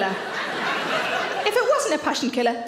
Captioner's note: audience laughs